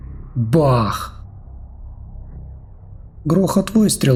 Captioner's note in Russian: бах!